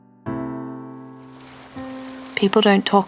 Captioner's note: waves lapping at shore